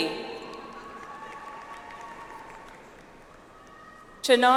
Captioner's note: audience applauds